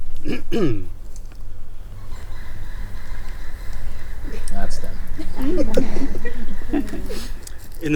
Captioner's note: bird calls loudly, energetically; crowd laughs